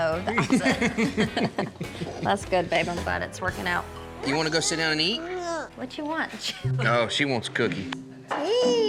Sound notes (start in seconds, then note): 0.3 laughs; 5.1 babbles